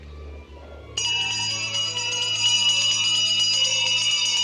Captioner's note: clanging